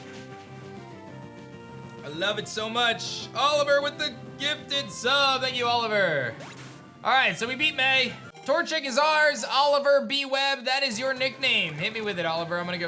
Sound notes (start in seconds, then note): none